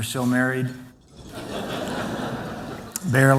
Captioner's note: laughter